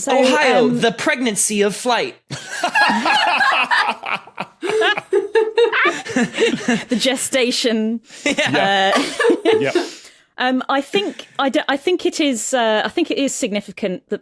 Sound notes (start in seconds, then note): 2.4 others laugh uproariously; 8.4 laughs